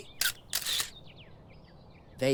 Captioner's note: camera click